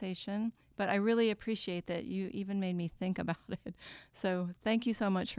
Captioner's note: laughs